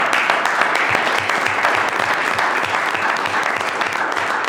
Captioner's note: audience applauding